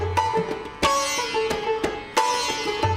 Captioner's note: none